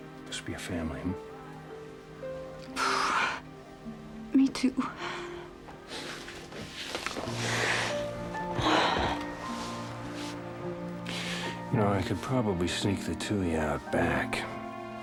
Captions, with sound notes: Just be a family. [SIGHS] Me too. Y’know, I could probably sneak the two of you out back...